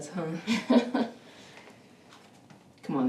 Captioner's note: Bethany chuckles